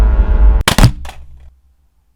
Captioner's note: thump